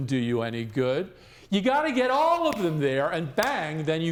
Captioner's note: snaps fingers; claps hands